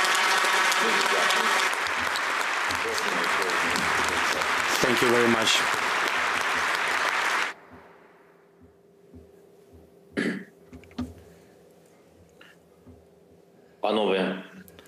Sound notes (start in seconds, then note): 5.3 applause; 9.8 speaking Alternate Language